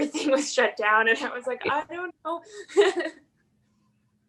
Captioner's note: laughs